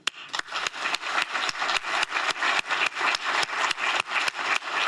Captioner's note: applause